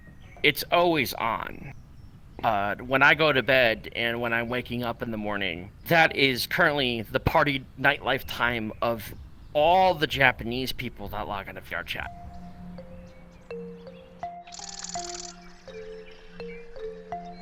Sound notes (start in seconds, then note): 12.0 happy music plays; 12.4 birds chirping